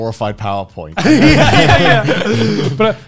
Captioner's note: laughing